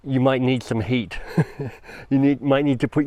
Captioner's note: chuckles